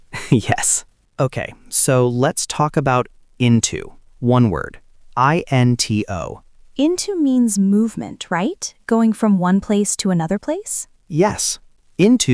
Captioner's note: laughs